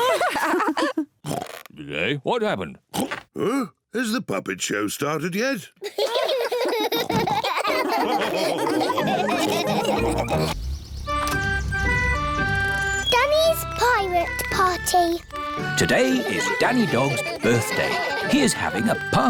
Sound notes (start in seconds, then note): 0.0 lady pigs giggle; 5.8 all giggle